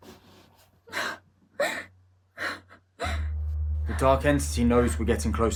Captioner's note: Emma crying